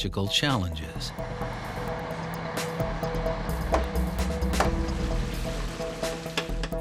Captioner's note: drilling sounds